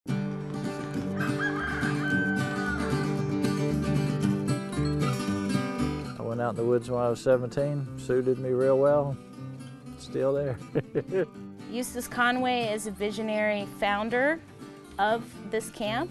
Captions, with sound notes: [rooster crowing] - I went out in the woods when I was 17 suited me real well, still there, [laughing]. - Eustace Conway is a visionary founder of this camp